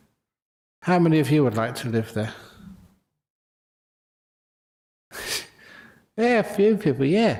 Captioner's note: silence